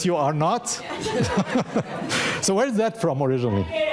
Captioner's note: audience laughing